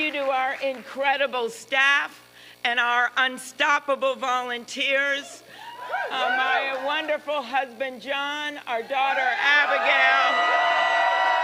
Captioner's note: applause